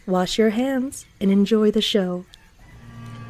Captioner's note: none